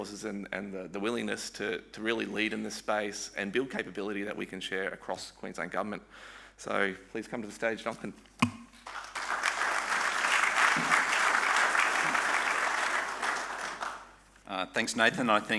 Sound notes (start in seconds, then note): 8.8 audience applauding